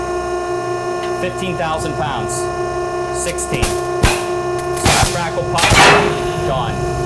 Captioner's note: sling crackling; sling pops